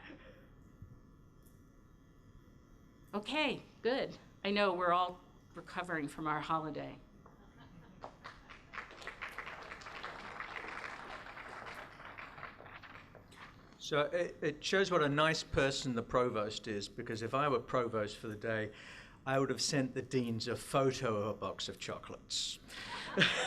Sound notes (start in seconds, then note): 0.2 silence; 7.4 light laughter; 8.0 applause; 22.7 laughter